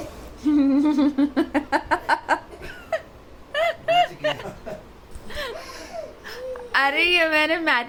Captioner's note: laughing